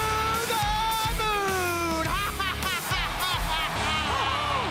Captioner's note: laughs